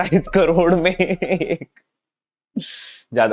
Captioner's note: laughing